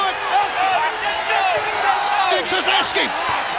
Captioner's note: crowd cheering